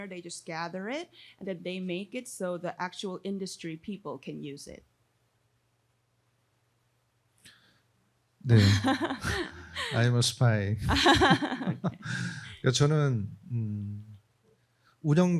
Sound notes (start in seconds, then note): 8.5 laughs; 12.9 speaking korean